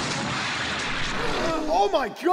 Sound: explosion; gasps

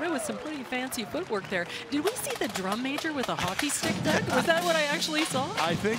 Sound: cheering and Applause

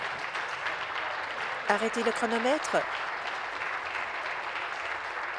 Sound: applause

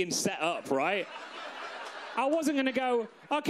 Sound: audience laughs

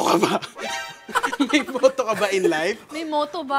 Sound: laughs

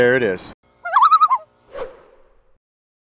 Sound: Loon call

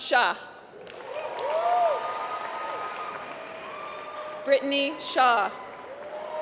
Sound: applause

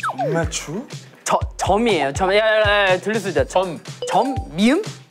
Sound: whispering

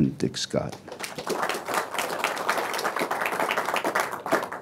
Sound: applause

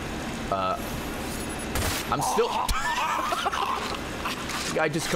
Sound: laughs

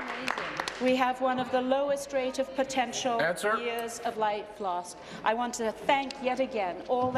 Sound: applause

